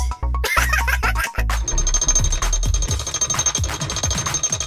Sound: Gigglebot laughs

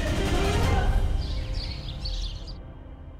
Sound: birds chirping

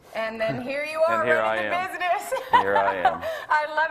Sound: laughs

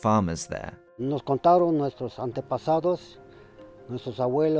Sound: speaks in Spanish

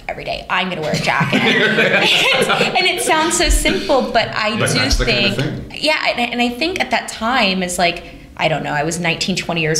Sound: laughter

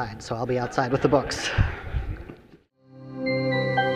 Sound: audience laughing; bright music

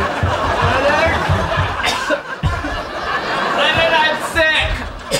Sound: audience laughing; coughs

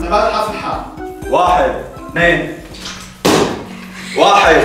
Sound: pops balloon

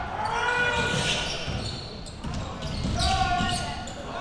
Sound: crowd cheering

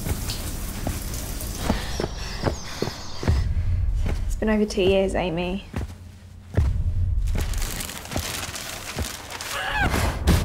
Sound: overlaid sounds, a cry, plastic, a car

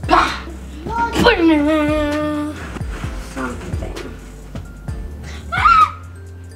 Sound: humming the theme

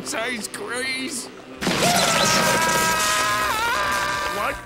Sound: screaming

